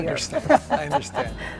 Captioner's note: laughing